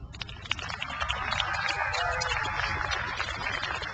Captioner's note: crowd applauds